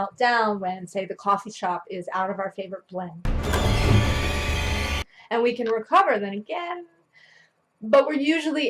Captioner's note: loud scary noise